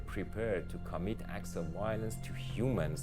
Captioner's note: none